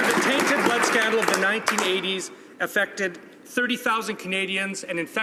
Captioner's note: some Applause